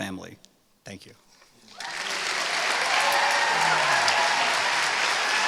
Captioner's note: applause